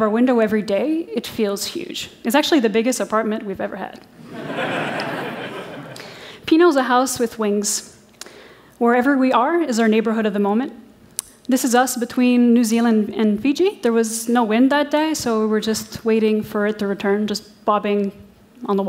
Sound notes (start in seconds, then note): 4.2 laughter